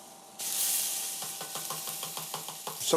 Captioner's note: sizzling